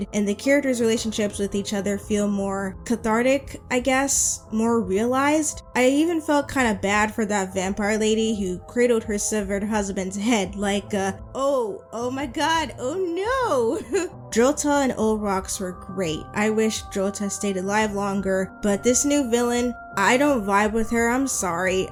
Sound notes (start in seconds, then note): 13.7 laughs